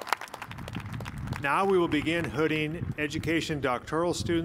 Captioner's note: cheers and applause